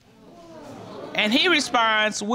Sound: audience gasping

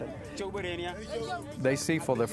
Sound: speaking foreign language

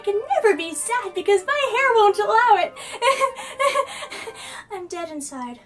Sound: crazy laughing

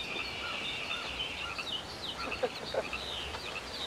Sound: laughs

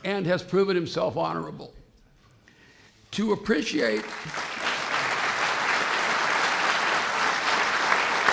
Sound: applause

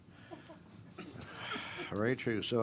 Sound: laughter

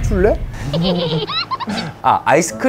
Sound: laughing

